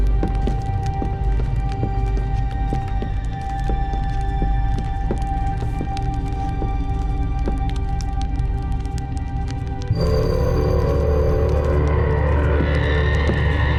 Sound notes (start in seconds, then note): 0.0 footsteps clicking; 0.1 somber music; 7.1 dark music; 7.1 torch crackling